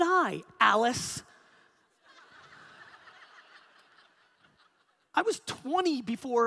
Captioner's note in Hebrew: הקהל צוחק